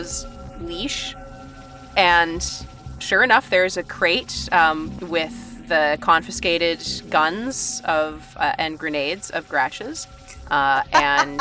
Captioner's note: laughs